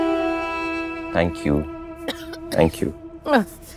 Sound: coughs

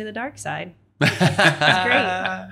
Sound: laughing

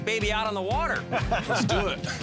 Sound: laughter

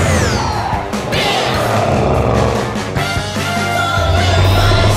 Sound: engines roaring; tires screeching

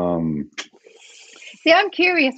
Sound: hisses; clicks

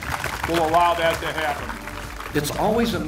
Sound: crowd applauding

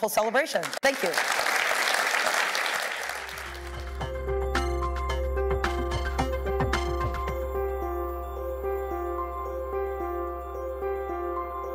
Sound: applause

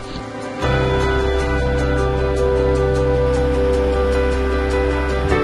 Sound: water rushing

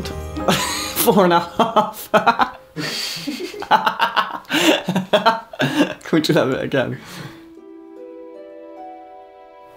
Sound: laughs; manic giggles

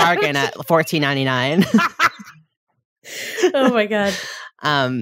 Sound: laughing

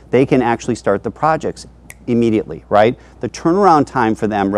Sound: snaps

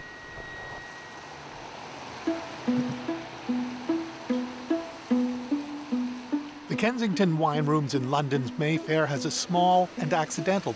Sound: phone dial tone

